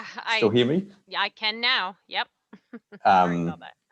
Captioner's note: laughs